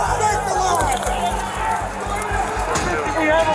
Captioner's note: shouting